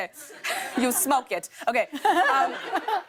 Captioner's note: laughter